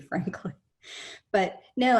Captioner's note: chuckles